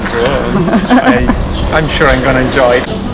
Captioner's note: laughs